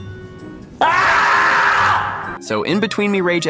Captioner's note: more screaming